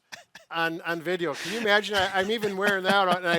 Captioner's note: laughs